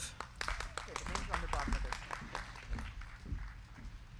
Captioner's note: crowd clapping